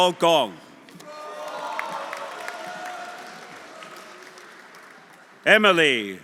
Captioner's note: audience cheering; audience applauding